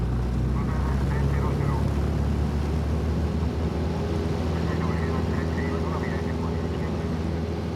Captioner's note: men speaking on radio